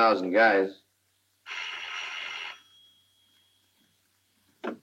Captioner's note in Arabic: يرن الهاتف